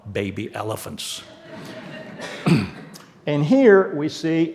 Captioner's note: audience laughing